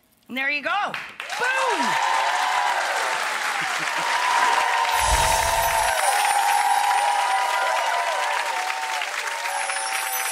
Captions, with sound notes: And there you go. Boom! (audience applauds)